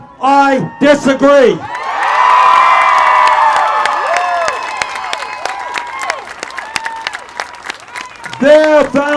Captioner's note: applause